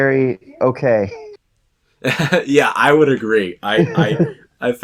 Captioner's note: laughs